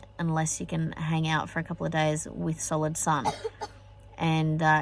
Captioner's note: coughs